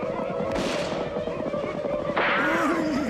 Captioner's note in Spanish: disparo